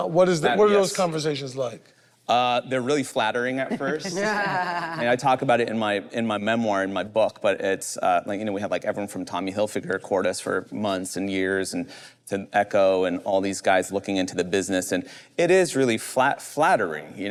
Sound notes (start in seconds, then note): 3.6 group laughs